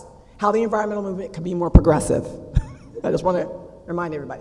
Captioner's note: laugh